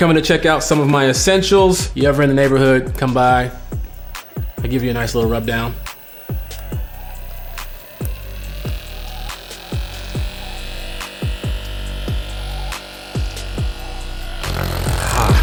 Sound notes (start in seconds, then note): 6.5 hip hop music; 6.5 massager whirring